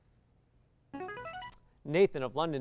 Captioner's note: signaling device tone